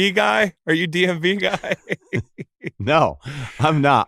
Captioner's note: laughs